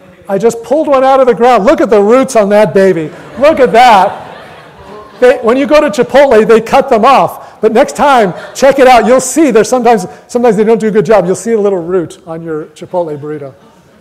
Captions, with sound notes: I just pulled one out of the ground. Look at the roots at that baby! [audience laughter] Look at that! When you go to Chipotle, they cut them off, but next time, check it out. You'll see there's sometimes-- Sometimes they don't do a good job. You'll see a little root on your Chipotle burrito.